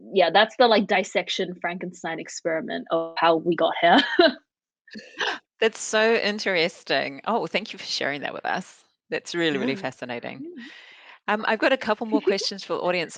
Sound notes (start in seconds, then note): 3.9 laughs